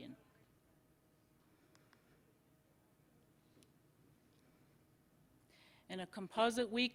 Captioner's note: silence